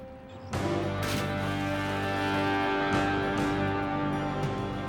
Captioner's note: water splashing; suspenseful music